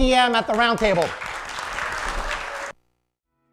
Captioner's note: applause